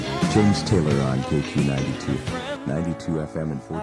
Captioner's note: radio noise; radio Voiceover